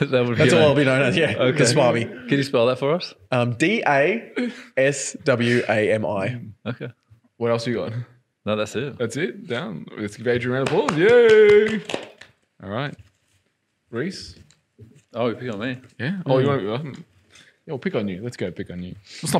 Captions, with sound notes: - Can you spell that for us? - D-A-S-W-A-M-I. - Okay. - What else are you on? - No, that's it. - That's it, then let's give Adrian an applause. (cheering) (clapping) Reese! - Oh pick on me. - Yeah, pick on you let's go pick on you.